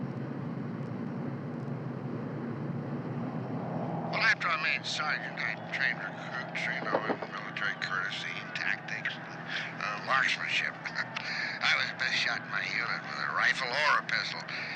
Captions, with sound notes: (Lowball on radio) After I made Sergeant, I trained recruits, trained them in military courtesy tactics, marksmanship. I was the best shot in my unit with a rifle or a pistol.